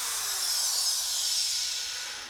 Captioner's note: whisring stops